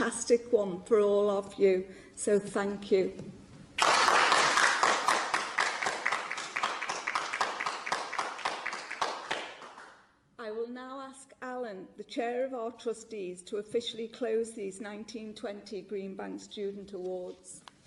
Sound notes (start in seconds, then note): 3.8 clapping